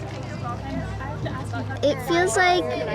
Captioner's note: indistinct chatter